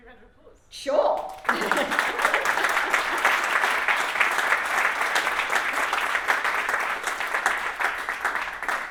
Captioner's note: laughs; audience applauds